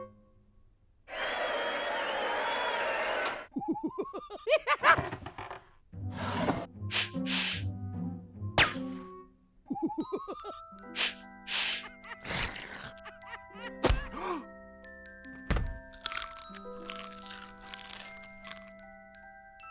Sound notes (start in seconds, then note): 1.1 crowd cheering; 3.6 chittering laugh; 4.9 creak; 6.8 sniffing